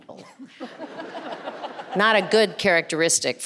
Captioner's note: audience and panelists laughing